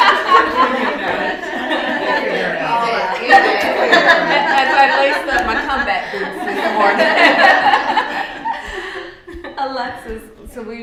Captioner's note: laughter